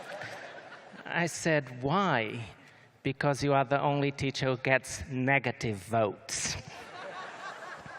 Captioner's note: laughter